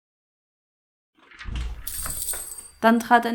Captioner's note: doorbell rings again